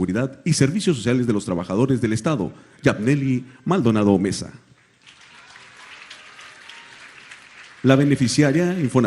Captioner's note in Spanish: aplausos